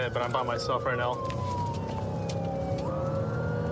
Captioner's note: siren blaring